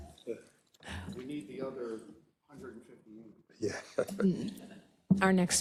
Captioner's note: laugh